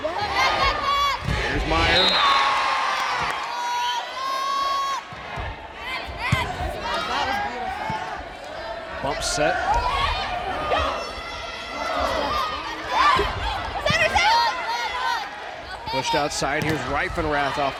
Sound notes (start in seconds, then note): 1.8 whistle blows; 3.4 crowd and players cheering; 3.4 players yelling; 10.2 players yelling